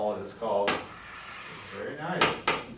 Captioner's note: taps board